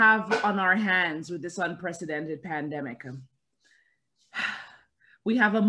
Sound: sighs

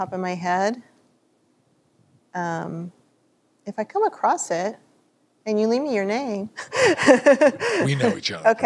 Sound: laughter

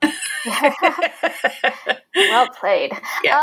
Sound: both laughing

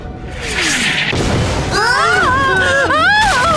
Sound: explosion; all scream

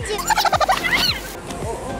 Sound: tape rewind squeak

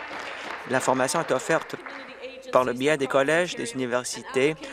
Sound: applause

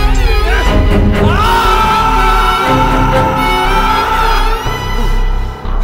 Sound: screams

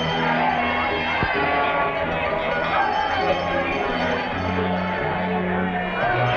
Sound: celebration ambient

